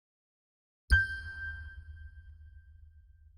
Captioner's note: ding